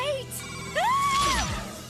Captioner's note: screams